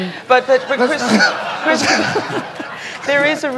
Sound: laughter

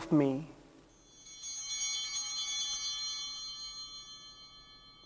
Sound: chimes ringing

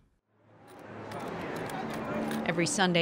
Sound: ambient noise at farmers market

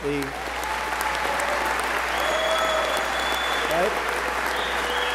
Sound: applause

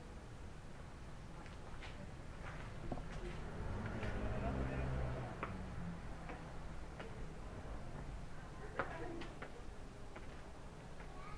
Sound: walking continues

